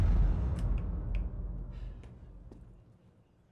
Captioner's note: ominous booming; clicking